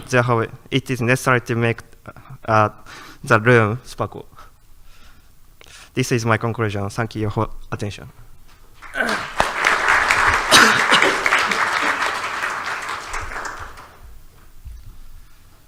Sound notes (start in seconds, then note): 8.8 light audience applause